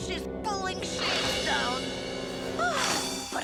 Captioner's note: Otto gasps